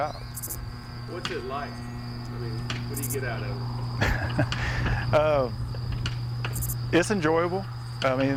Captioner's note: laughter